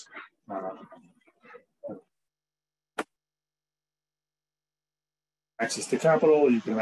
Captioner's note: audio drops out